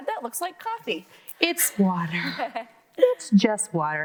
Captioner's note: laughing